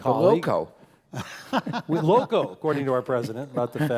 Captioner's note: laugh